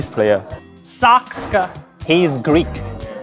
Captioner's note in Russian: Голос за кадром